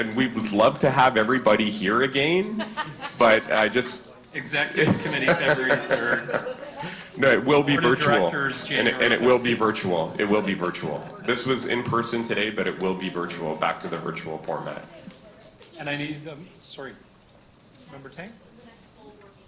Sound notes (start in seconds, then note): 2.5 laughter; 4.7 laughter